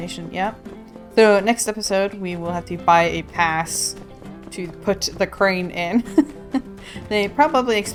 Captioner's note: laughs